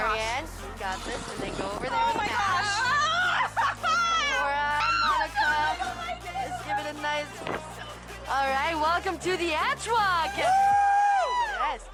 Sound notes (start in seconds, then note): 3.4 screaming off camera